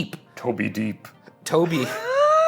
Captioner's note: laughs